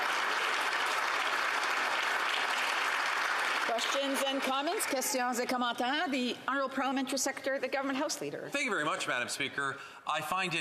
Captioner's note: some Applause